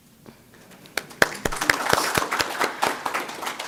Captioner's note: applause